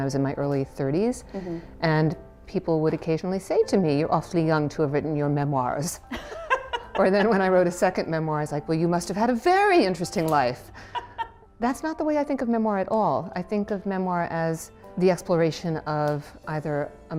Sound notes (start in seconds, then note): 6.1 laughing